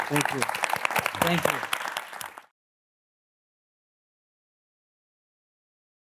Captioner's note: audience applauding